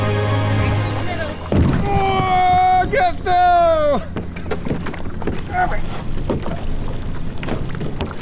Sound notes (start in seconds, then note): 1.2 thuds; 2.1 shouting; 4.8 thudding